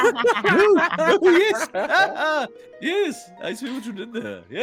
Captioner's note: laughs